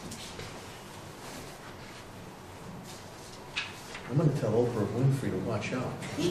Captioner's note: shuffling of papers